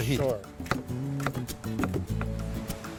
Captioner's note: chopping